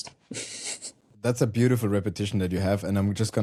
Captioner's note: chuckles